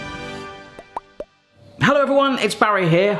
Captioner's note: upbeat music; logo popping